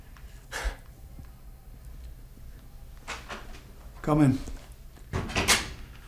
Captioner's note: knocking